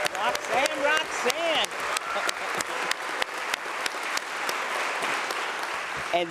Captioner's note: applause